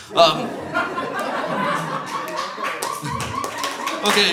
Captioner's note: audience laughs; audience applauds